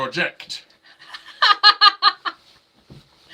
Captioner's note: laughing